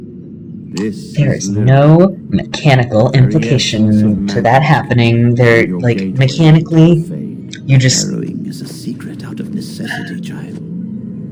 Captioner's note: sigh